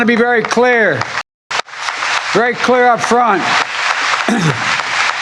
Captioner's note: applause